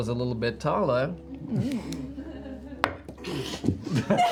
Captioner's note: off-screen laugh; laughter